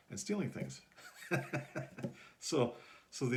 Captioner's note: laughing